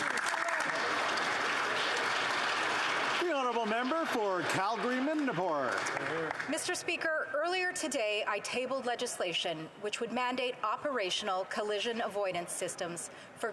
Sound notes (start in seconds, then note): 3.0 applause